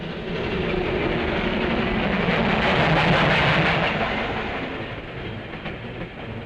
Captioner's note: aeroplane engine overhead